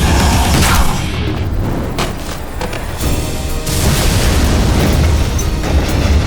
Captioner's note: roaring